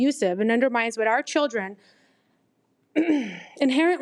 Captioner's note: clears throat